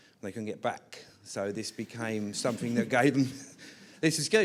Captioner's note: laughter